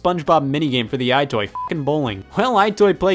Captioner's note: beep